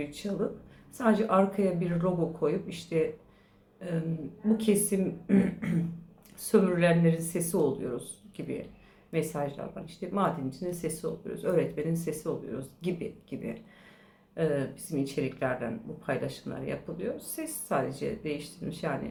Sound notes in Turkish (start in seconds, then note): 5.2 boğazını temizler; 5.2 öksürme